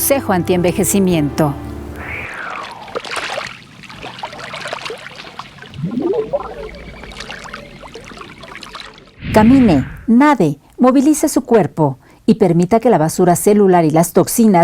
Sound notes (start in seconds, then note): 3.1 sound of water